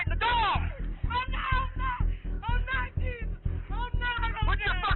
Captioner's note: woman screaming